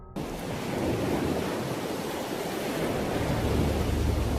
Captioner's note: waves crashing